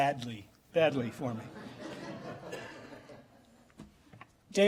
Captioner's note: laughter